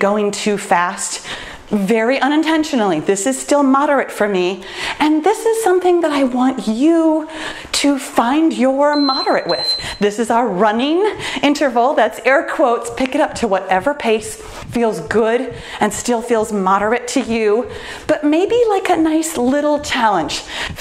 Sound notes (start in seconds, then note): 8.9 timer beeps